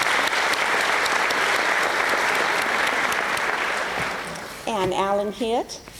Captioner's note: applause